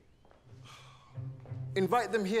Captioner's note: sighs